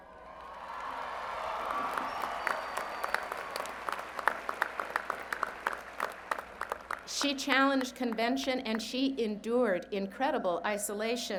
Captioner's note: cheers and Applause